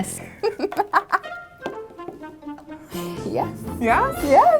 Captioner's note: laughing